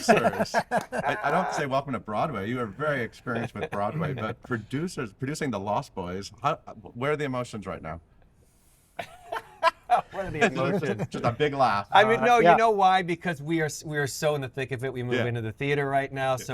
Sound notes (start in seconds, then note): 0.0 all laughing; 9.0 laughs